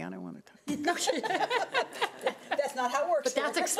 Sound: laughing

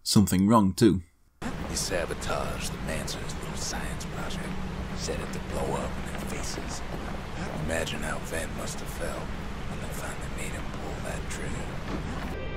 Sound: in-game audio

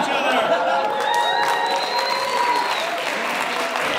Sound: crowd cheers

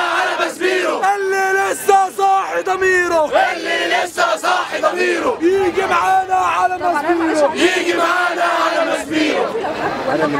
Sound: chants; chants

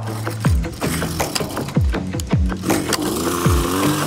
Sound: pulling mechanism cranking; gas motor revving

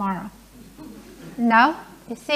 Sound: laughing

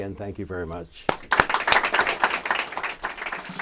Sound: clapping

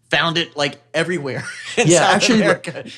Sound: laughs

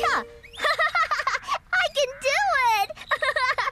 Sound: laughing

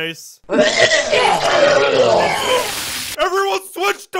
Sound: retches

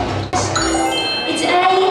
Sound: bell chimes

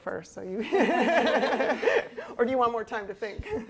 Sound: laughter

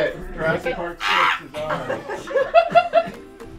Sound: dinosaur noise; laughing

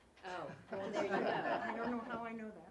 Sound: laugh

